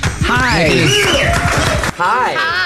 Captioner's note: crowd applauding